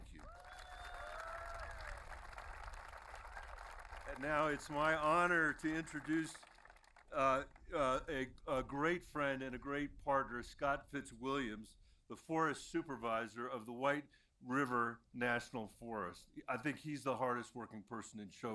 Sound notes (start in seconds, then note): 4.6 applause